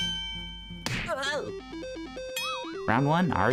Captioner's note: bell; thud